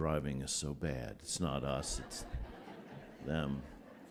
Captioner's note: laughter